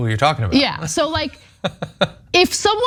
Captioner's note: laugh